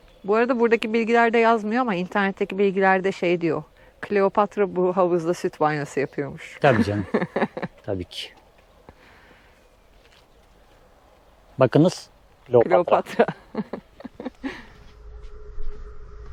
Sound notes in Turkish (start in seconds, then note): 6.6 kahkaha; 13.0 kahkaha